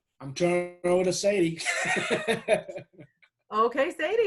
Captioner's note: laughs